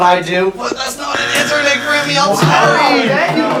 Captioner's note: wrong buzzer